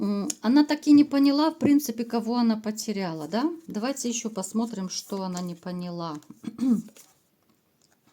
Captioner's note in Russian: откашливается